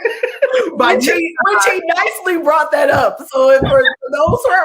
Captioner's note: laughter; laughing